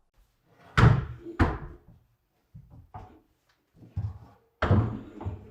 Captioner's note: cabinet thudding